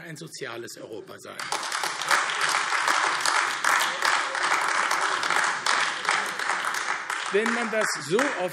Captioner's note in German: Beifall AfD